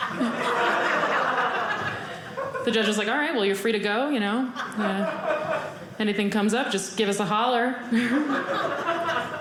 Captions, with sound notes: The judge is like, "all right. "Well, you're free to go. "Anything comes up, just give us "a holler." (audience laughing)